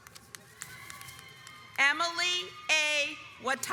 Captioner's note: audience cheers